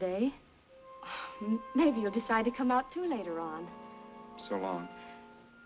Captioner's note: sighs